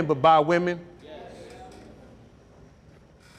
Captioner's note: crowd